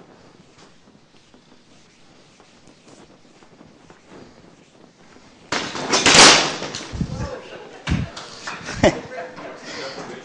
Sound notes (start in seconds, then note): 5.5 clattering; 6.9 laughs